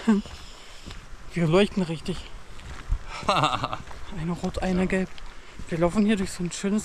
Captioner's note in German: lachen